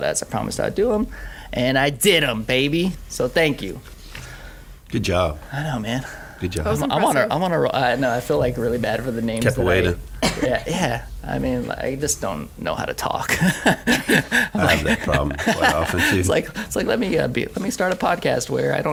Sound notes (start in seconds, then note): 13.3 laughing